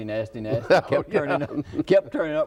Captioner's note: laughs